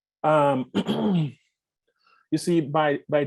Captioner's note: clears throat